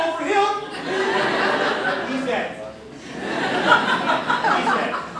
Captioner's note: laughter